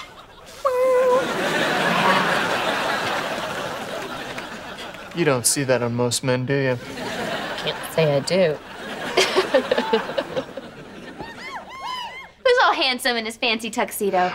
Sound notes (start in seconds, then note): 6.8 laughing